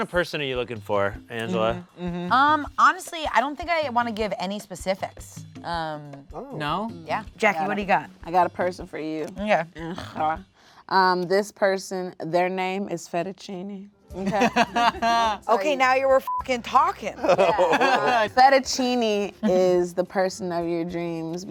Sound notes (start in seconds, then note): 14.2 laughs; 16.2 beep